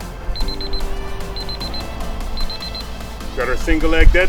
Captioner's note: timer beeping